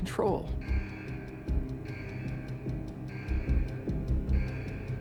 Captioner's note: alarm beeping